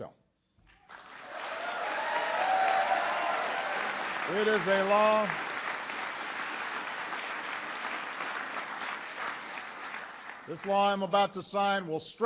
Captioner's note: applause